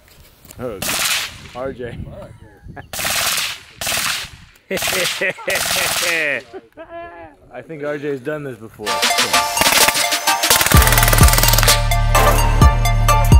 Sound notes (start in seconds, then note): 2.6 gunshots firing; 4.6 laughing; 8.8 upbeat music; 10.4 gunshots firing